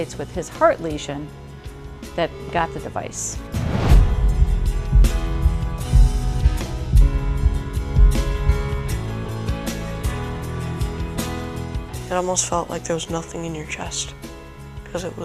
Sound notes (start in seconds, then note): 3.8 heartbeats